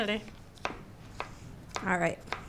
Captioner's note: knife chops